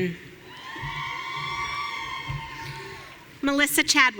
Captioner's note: audience cheering